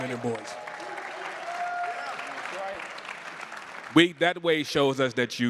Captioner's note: crowd cheering